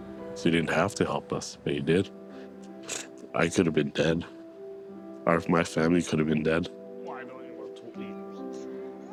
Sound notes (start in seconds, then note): 2.8 sniffles